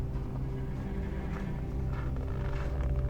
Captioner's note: A low, unsettling tone in the music; footsteps in the snow